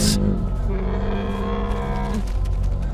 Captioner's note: bear grunts; birds flap wings